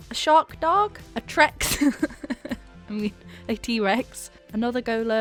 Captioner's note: laughs